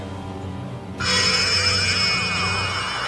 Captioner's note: loud hum